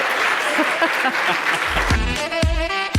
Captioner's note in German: Applaus und Jubel